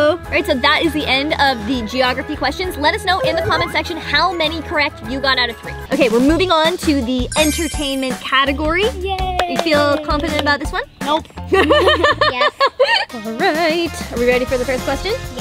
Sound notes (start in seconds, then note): 9.2 claps; 11.5 laughs